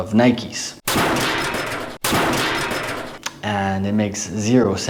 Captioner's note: metallic sound